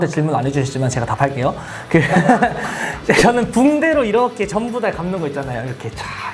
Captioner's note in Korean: 웃음